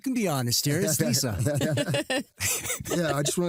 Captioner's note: laughter